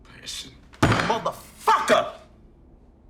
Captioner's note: hand thudding